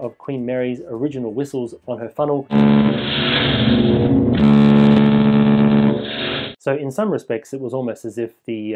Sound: whistle blast

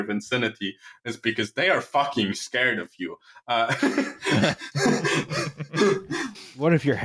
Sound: laughter

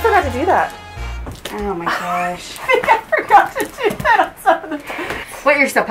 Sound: laughter

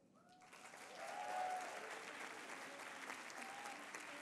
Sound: applause

